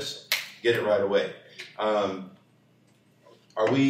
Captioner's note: snaps fingers